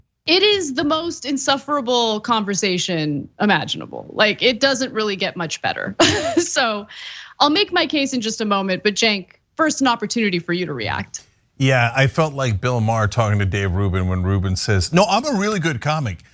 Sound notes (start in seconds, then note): 5.9 laugh